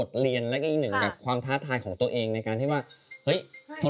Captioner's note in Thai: เสียงโทรศัพท์ดัง